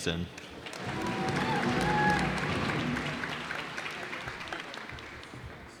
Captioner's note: cheers and applause